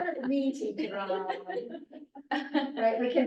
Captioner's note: laughter